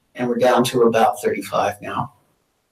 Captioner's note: none